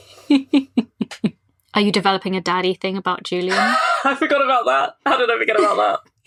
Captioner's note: laughs